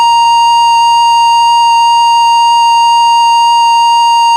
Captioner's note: off-air tone